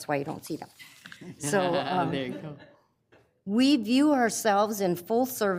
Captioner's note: laughs